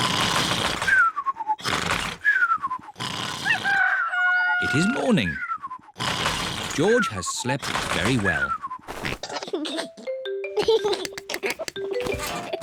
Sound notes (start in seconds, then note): 3.4 cockerel crows; 10.5 giggles